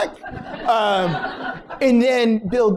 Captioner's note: laughter